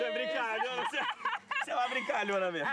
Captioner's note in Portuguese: Luziete rindo